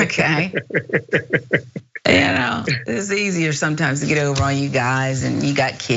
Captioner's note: laugh